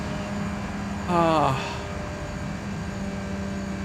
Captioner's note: sighs